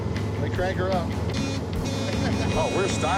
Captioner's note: horn beeping